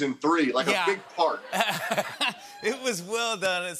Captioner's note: laughter